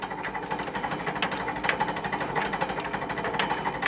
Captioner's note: rattling noises